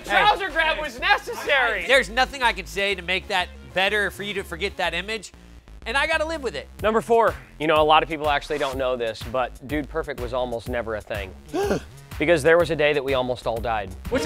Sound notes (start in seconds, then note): 11.5 gasp